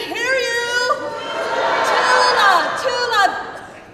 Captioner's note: crowd